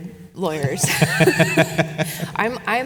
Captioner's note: laughs